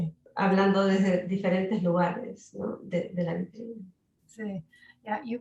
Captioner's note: speaking Spanish